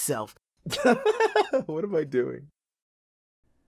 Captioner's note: laughs